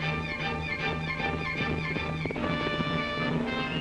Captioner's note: dramatic music; hooves pounding; dramatic music